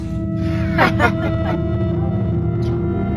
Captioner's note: Tails.EXE Laughs